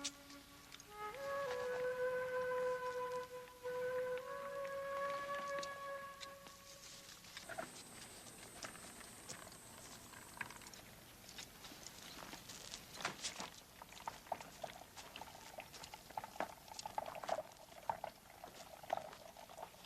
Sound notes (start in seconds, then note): 6.9 earth rumbling; 13.2 water trickling